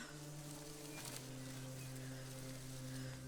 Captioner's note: Freyja breathing heavily